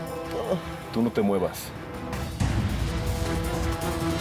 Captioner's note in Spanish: quejidos